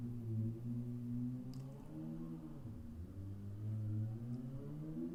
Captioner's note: loud motorcycle; annoyingly loud motorcycle drives off